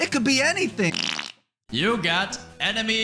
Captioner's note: fart